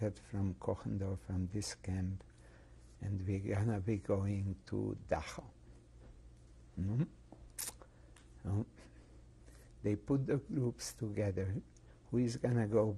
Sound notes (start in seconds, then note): 6.8 pauses for 3 seconds